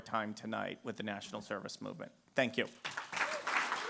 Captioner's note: applause